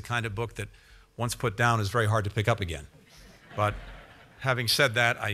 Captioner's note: laughter